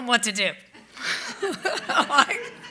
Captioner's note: laughter